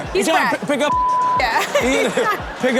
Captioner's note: beep; laughs